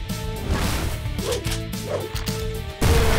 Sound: weapons loading

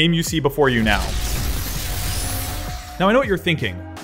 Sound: game sounds

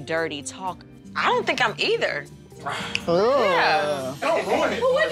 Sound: exhales

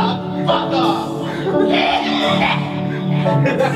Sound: violent coughing; whole room laughing

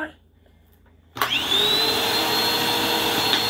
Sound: vacuum starts

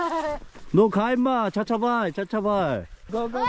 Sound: kid loudly asking for money

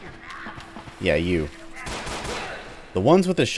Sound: Glock firing

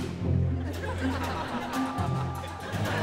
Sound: laughing

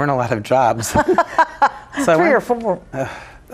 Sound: laughing

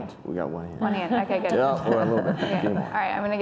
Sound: laughing

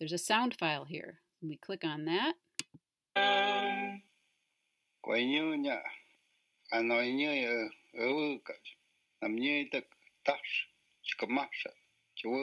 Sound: language recording

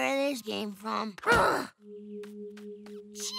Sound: grunting

